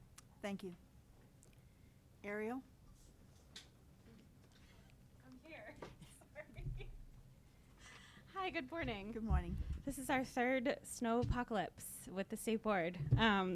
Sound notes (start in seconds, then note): 6.0 chuckles